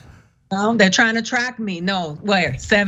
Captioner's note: laugh